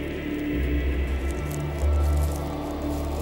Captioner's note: crackle of locusts